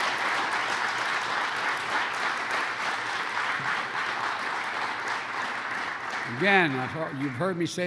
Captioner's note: applause